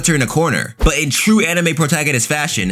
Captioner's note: air whooshing